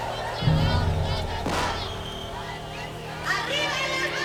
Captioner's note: gunshot